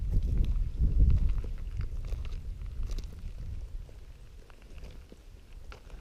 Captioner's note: wind and footsteps